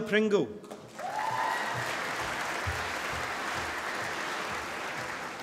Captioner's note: applause